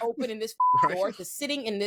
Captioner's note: beep